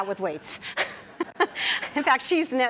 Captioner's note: laughs